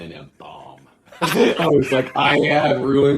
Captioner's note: laughing